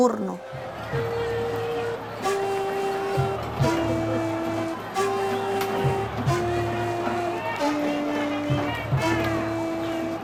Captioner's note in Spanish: Gritos de protesta